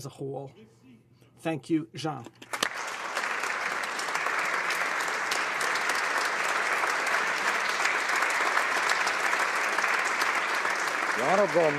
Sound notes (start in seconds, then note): 5.6 applause